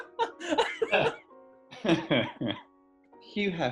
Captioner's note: giggling; laughter subsides